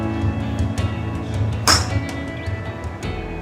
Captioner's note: sound: purely struck golf shot